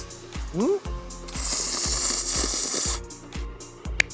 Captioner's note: slurp slurp slurp